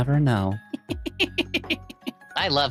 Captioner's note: laughing